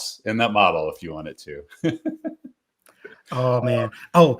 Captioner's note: laughing